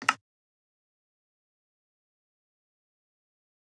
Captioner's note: click